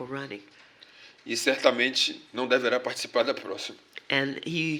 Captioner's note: speaking portuguese